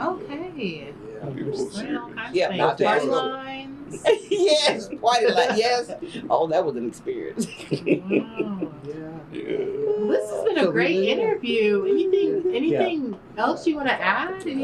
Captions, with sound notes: Okay, I’m just learning all kinds of things, party lines…. Yes, (Laughs) oh, that was an experience. This has been a great interview. Anything else you want to add?